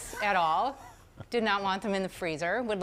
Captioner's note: laughing